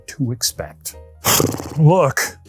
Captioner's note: blows raspberry